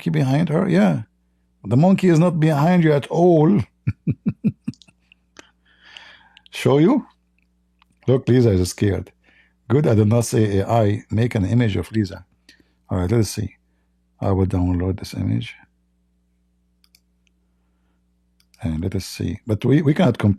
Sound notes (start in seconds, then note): 3.5 Ketawa